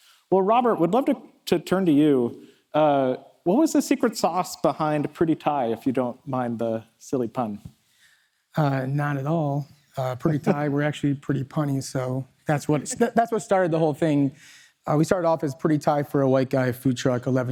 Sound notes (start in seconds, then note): 10.2 chuckles